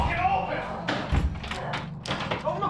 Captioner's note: Nigel and Shane bang on door